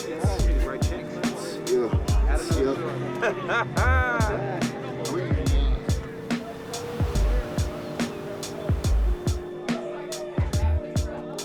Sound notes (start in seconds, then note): 0.0 hip hop beat plays; 3.0 person laughs; 3.7 hip hop beat plays